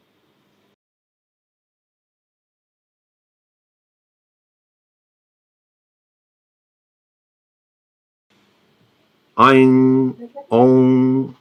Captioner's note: recites a mantra